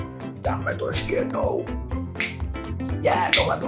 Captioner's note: Czech language 😊